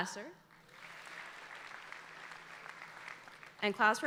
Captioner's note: audience applauding